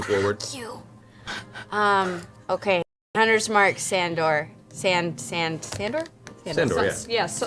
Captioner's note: strained